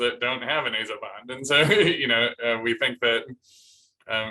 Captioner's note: laughter